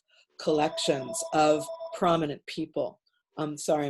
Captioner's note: phone rings